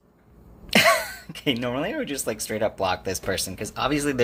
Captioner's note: laughs